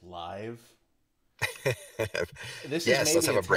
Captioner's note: laughter